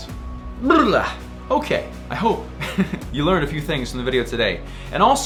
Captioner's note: laughs